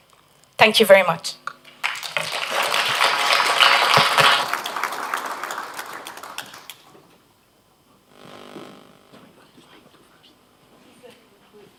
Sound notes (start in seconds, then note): 1.7 applause